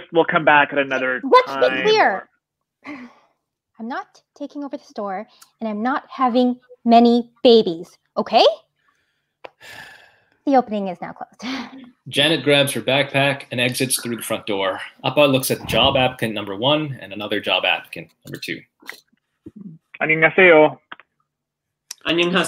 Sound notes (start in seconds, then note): 11.6 laughing; 20.2 speaks in foreign language